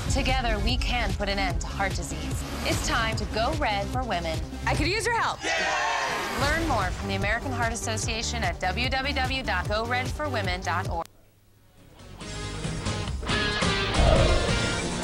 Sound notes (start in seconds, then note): 5.4 cheering